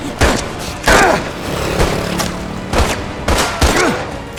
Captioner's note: gunshots continue